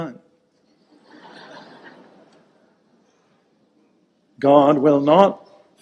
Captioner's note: audience laughing